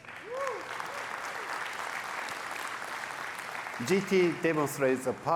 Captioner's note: applause